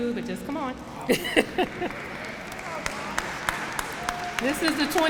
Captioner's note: applause